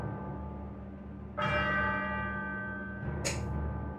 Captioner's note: bell Ringing